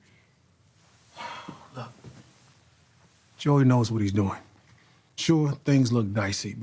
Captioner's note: sighs